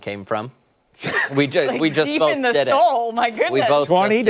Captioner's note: laughter